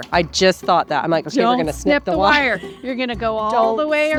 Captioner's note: laughs